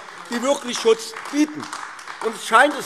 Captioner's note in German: Beifall AfD